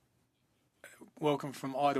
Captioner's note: speaking in French